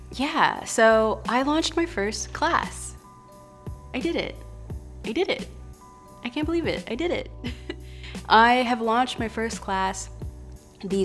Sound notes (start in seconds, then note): 7.4 laughs